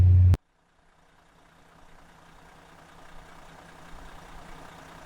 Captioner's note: car engine purring